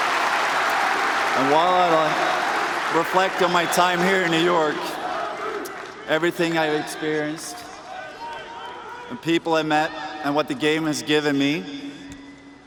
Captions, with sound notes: AND AROUND THE CITY. [ CHEERS AND APPLAUSE ] AND WHILE I REFLECT ON MY TIME HERE IN NEW YORK, EVERYTHING I